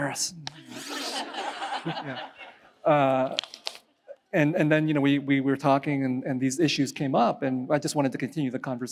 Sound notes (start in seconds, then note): 0.6 laughs